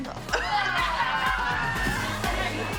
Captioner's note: laughter